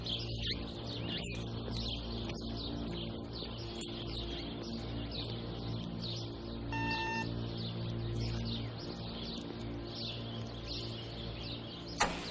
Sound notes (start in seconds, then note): 0.5 birds singing; 6.8 doorbell ringing; 8.5 birds singing